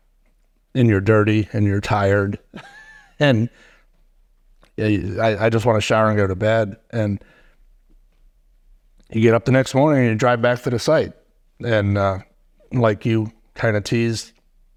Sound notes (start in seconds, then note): 2.4 chuckling